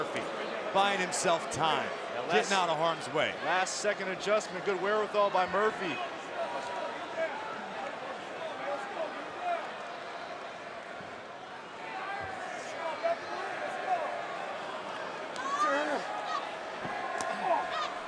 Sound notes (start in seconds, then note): 6.3 crowd chattering